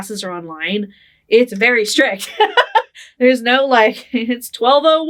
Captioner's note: laughing